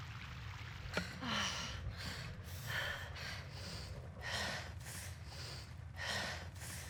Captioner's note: panting